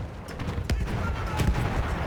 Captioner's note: gun fires